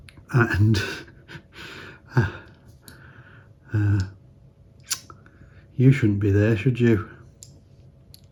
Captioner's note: laughs